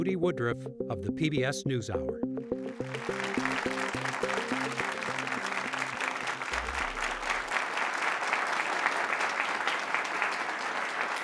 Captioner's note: applause